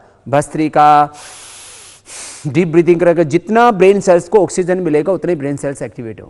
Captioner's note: deep breathing